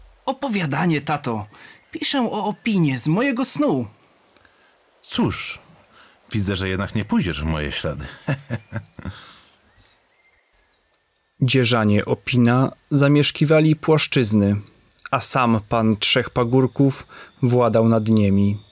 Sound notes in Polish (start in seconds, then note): 8.0 śmiech